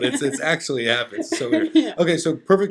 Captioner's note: laughing